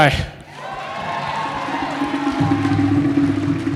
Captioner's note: applause